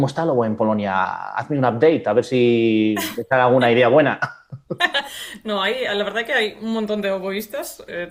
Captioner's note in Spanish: risas